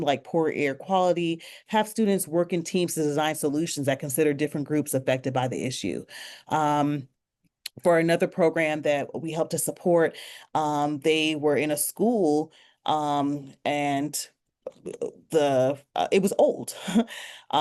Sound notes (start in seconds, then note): none